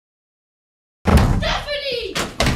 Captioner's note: door banging